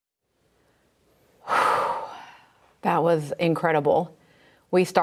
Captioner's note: deeply sighs